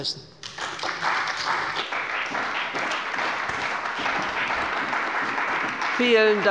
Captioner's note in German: Beifall bei der CDU und dem BÜNDNIS 90/DIE GRÜNEN